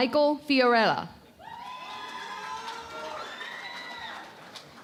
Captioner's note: cheering and Applause